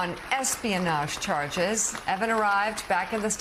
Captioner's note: applause